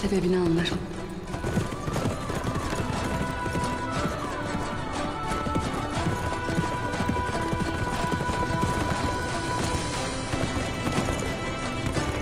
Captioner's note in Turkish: Nal sesleri